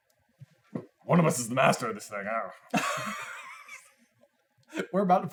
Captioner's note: laughter